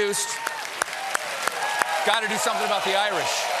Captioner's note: cheers and applause